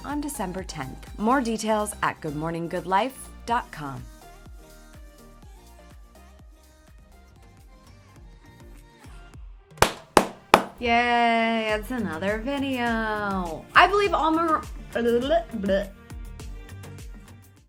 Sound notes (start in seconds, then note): 9.8 clapping; 15.0 tongue rolling